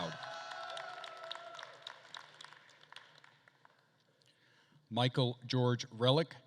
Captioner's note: attendees cheering and applauding